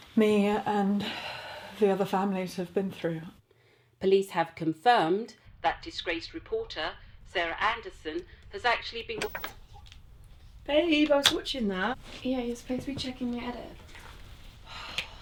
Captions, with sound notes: me and (exhales) the other families have been through. - Police have confirmed that disgraced reporter, Sarah Anderson, has actually been... (remote clicks) - Babe, I was watchin' that. - Yeah, you're supposed to be checking me edit.